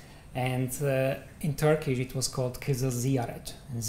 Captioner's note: non-english